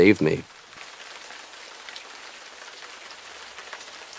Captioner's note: rain falling